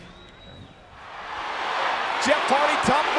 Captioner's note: audience cheering